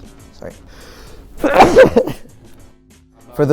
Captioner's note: sneeze